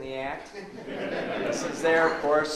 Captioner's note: audience laughs